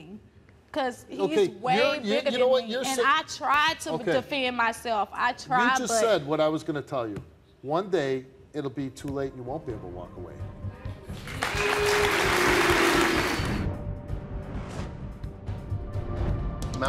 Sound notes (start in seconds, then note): 11.1 audience applauds; 13.6 dramatic music